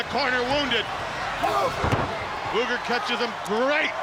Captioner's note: body thudding